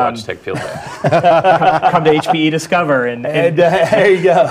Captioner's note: laugh